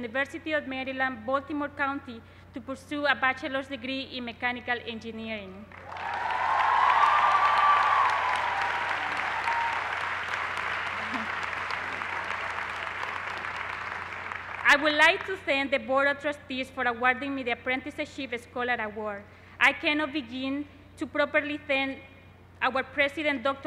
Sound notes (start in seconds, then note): 8.8 cheers and applause